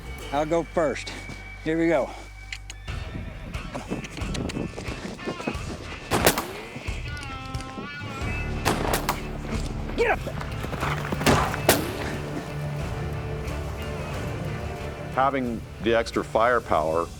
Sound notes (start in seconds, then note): 6.1 gunshots; 11.0 gunfire